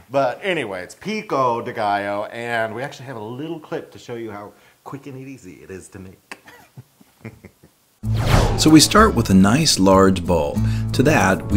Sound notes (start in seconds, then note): 6.3 laugh